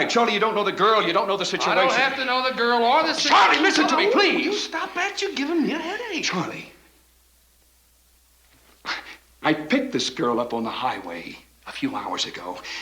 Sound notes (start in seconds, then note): none